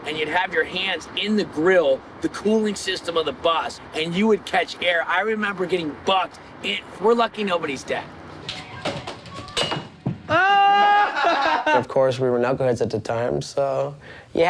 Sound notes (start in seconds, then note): 8.8 nunchucks clattering; 10.4 group laughing